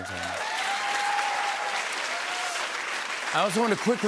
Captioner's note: cheers and applause